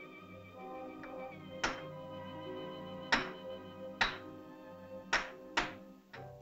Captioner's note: rock bangs; whimsical music